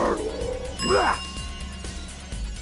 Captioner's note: ding